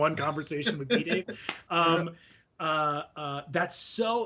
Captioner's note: laughing